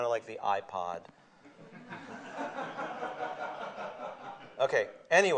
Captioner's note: laughter